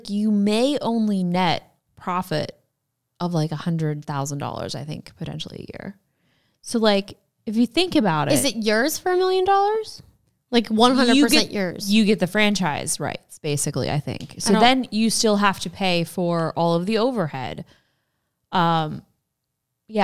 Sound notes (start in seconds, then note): none